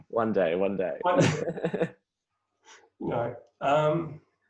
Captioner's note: both laughing